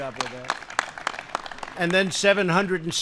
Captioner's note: applause